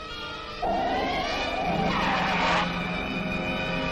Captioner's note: tires screech